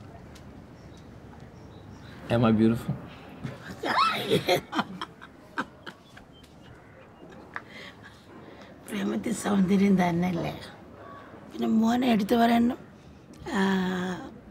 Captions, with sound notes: Am I beautiful ? - Oh yeah (laughs)